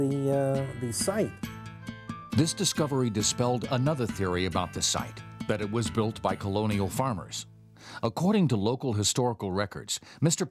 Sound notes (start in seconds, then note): 2.6 voiceover